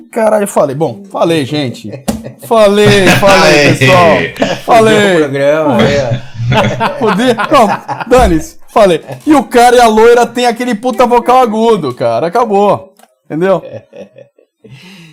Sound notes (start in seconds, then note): 8.3 laughs